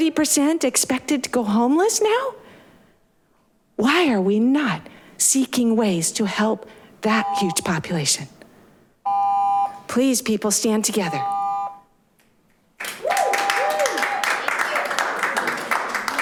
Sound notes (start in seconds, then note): 11.0 continuous beeping; 12.8 audience applaud